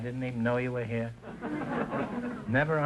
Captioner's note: audience laughter